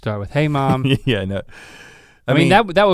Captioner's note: chuckles